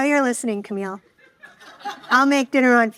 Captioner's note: audience laughing